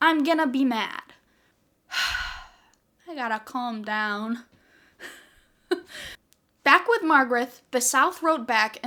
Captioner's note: sigh